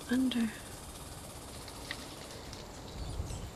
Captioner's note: birds chittering